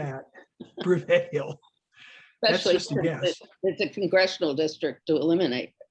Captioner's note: both laughing